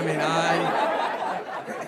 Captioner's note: audience laughing